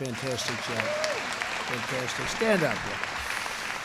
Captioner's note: applause